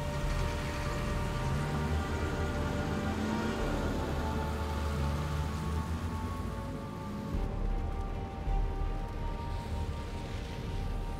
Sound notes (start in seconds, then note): 3.7 engine slows down; 3.7 light rain; 8.3 ominous music